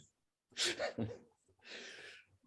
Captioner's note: laughs